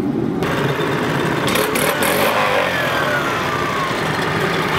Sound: saw motor blaring

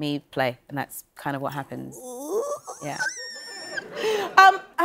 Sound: squealing

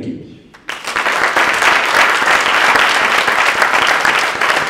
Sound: audience applauding

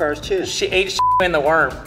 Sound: beep

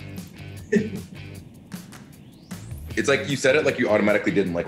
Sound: laugh

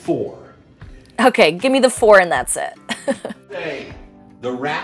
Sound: laughs

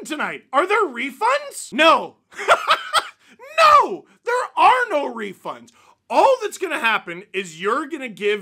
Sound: laughter

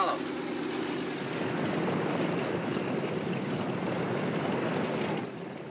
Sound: aircraft idles

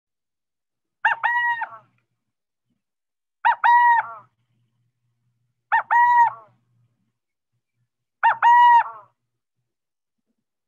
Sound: burrowing owl coo-coo call

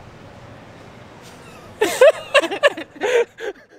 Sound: laughs

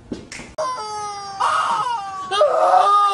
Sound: chicken wails

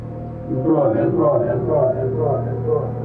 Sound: echo

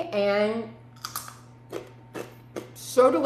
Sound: crunching chip

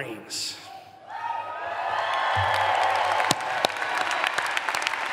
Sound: audience applause

